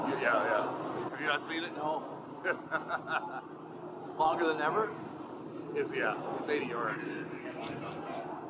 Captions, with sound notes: It's long? Yeah, yeah. Have you not seen it? No. (Undertaker laughing) Longer than ever? It is, yeah, it's 80 yards.